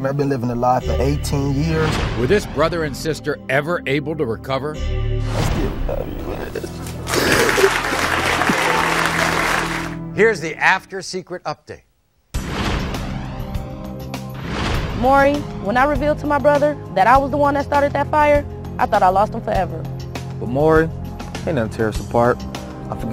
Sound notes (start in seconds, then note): 6.8 audience applauding; 12.5 upbeat music